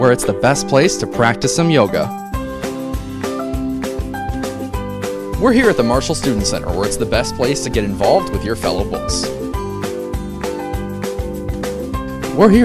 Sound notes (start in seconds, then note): none